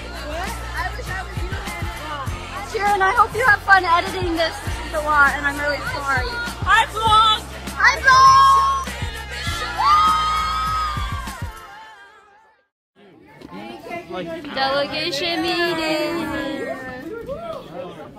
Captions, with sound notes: Ciaran, I hope you have fun editing this this is a lot and I'm really sorry. Hi Vlog. Hi Vlog. (cheering) Delegation meeting.